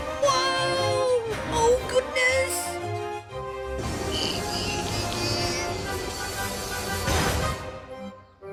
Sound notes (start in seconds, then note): 4.0 philip strains and brakes squeal